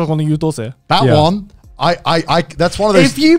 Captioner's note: speaks in foreign language